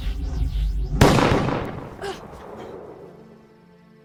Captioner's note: guns firing; dramatic music